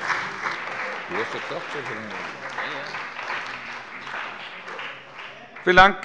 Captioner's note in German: Beifall bei dem BÜNDNIS 90/DIE GRÜNEN und der CDU